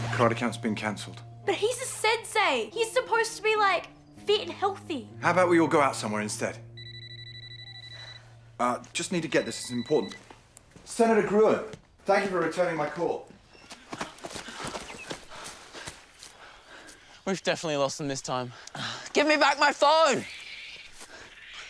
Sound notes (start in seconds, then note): 6.7 phone rings